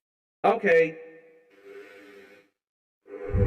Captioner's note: breathes in; breathes out